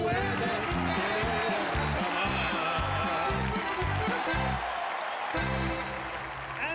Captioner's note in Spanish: aclamaciones